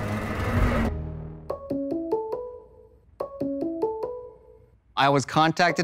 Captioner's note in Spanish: música dramática; sonido de llamada